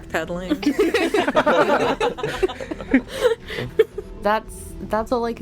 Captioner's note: laughter